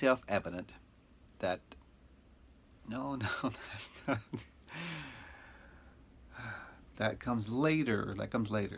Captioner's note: chuckles